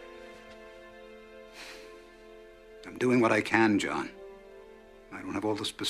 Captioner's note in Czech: Výdech